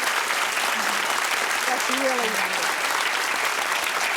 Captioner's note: audience cheering